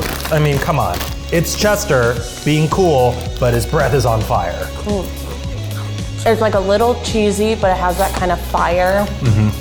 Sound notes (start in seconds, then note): 4.9 crunching